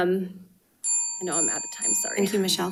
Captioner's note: bell dinging